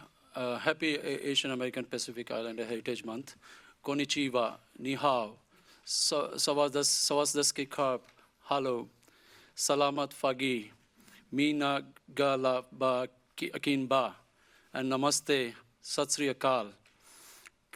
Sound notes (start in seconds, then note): 4.9 foreign language